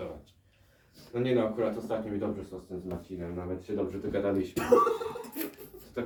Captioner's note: audience laughs